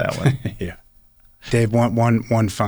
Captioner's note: laughs